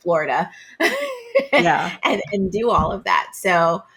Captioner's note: laughs